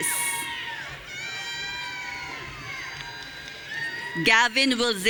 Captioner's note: audience cheering